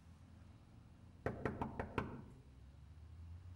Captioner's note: knocking